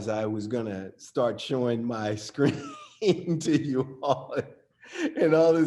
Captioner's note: laughs